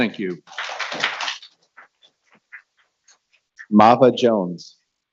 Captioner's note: people clapping